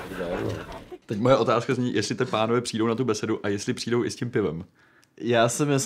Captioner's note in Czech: smích